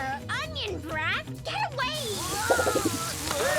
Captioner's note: mist spraying